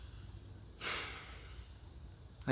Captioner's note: sighs